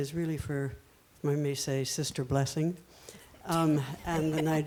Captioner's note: panelists laughing